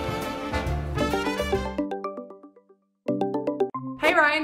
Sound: computer chiming

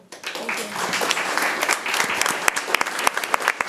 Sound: room applauds

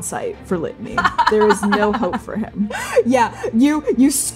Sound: laughing

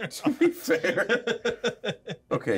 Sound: speaker laughs

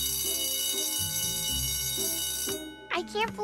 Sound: ring

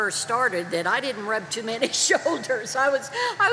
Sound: chuckles

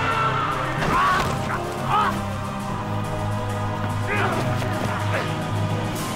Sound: grunting and quarreling

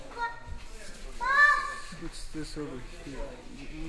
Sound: child screaming

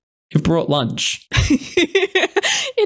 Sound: laughing

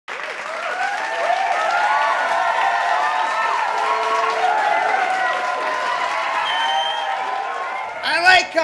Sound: audience cheering

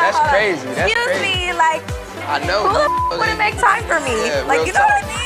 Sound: beep

